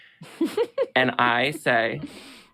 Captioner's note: lady laughs